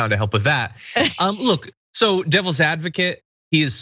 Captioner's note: laugh